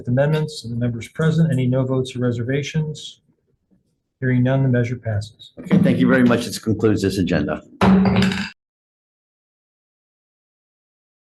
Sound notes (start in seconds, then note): 7.8 gavel bangs